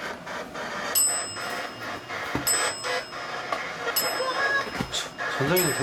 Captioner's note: 鳴り続ける